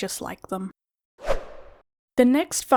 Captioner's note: whoosh Sound